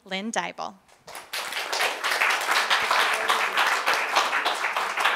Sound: audience applause

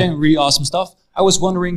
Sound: laughs

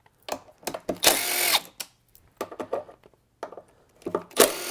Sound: driver tool roaring

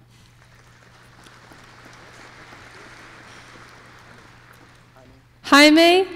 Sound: applause

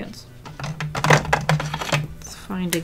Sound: marker case rattles

